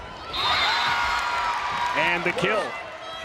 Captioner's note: crowd and players cheering; whistle blows